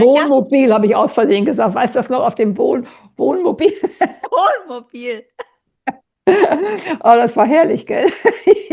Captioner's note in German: gelächter